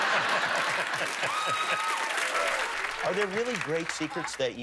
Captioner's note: laughter and applause